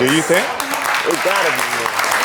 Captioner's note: audience clapping